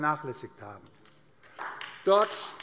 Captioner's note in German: Beifall AfD